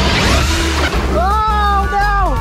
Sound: splash; car buzzing

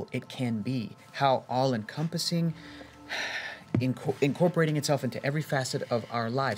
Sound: sigh

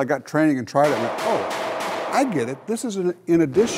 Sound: gunshots

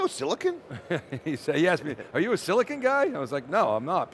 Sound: chuckles

